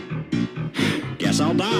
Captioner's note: sigh